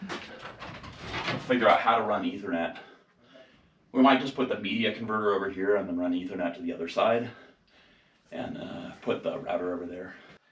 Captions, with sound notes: (door clanking) We'll figure out how to run the Ethernet, we might just put the media converter over here and then run Ethernet to the other side and put the router over there.